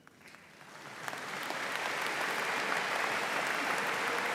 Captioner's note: audience applauding